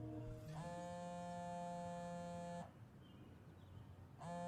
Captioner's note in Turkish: telefon ti̇trer